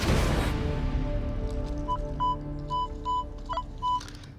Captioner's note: beeping sounds